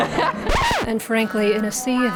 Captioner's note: laughs; record scratches